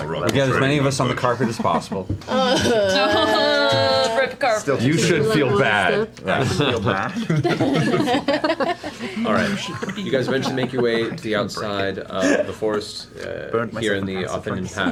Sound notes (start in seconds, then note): 3.8 groans